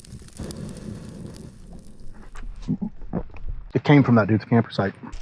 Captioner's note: animal gibbering